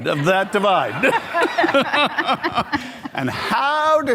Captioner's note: all laugh